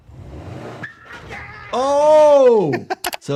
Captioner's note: vehicle revving; tires squealing; Anthony laughing